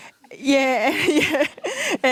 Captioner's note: laughs